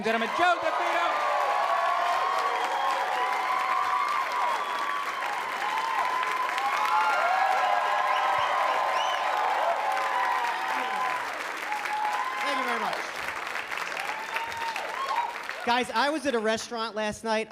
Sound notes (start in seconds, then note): 1.4 applause